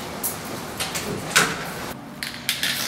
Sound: door opens

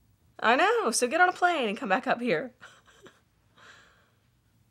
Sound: laughs

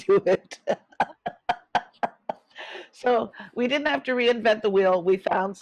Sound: laughs

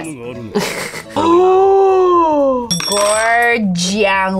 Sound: laughs; gasps

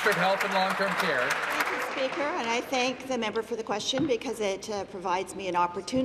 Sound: applause

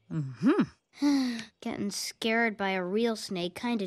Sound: sigh

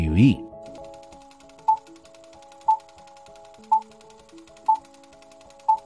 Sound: movie reels spinning and beeps

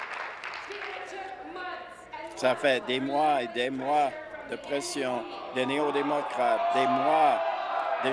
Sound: applause

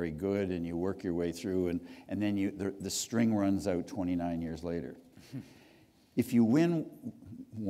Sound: chuckle

